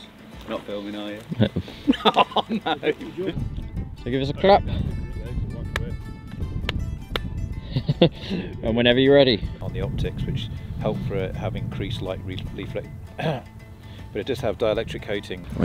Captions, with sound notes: You're not filming are you? Yeah Oh No! So give us a clap [Laughs] And whenever you're ready On the optics, which help having increased light- [clears throat] But it does have dielectric coating